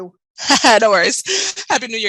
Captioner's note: chuckles